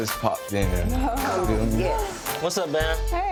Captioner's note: laughs